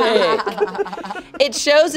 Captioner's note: everyone laughing